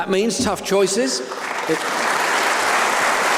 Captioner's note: applause